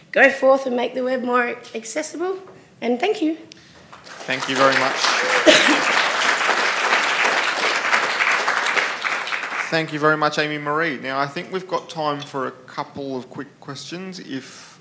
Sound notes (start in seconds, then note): 3.7 applause